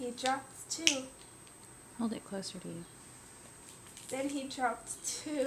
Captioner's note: snapping